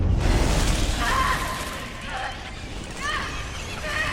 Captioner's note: yelling